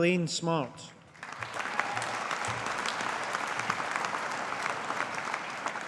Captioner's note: audience applauding